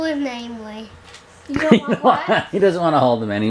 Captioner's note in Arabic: يضحك